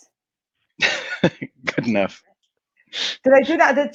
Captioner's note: laughs